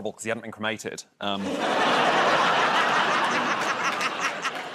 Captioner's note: laughter